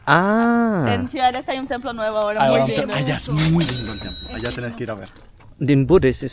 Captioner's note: Spanish